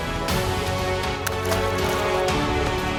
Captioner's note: water splashes